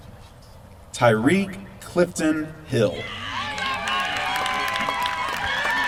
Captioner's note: applause